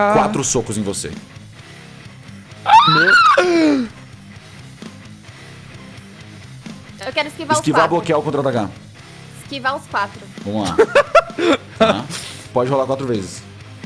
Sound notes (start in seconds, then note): 0.0 singing; 2.6 gasps